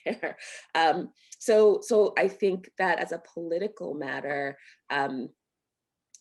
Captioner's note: laughter